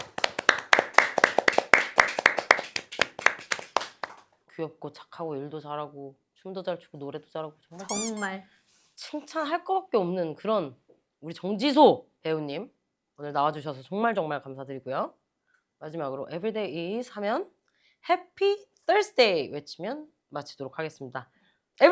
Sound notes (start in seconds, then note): 7.8 giggle